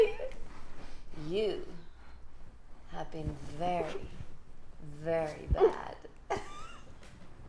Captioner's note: laughs maniacally